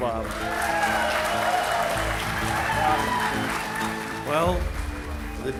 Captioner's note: applause